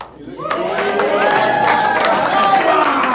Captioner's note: cheers